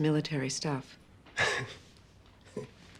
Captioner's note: chuckles